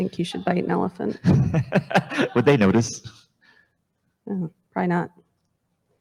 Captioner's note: laughs